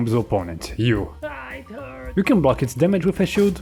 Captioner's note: ahh it hurts